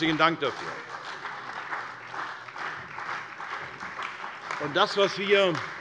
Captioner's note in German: Beifall bei der CDU